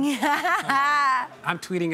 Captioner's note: Sarah laughs; crowd laughs